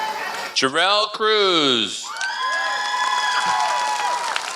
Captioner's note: applause